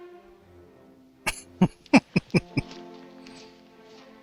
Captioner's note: laughing